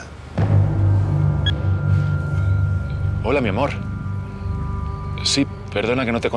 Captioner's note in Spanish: Bip